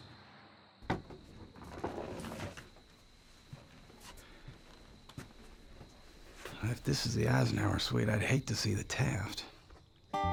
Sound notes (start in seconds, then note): 1.3 crickets chirping